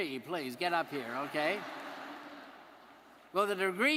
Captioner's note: audience laughing